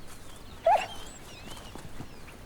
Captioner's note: dog barks